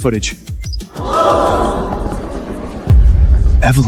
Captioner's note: crowd gasps